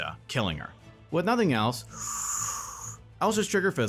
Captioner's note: narrator inhales